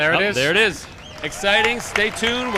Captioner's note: crowd cheers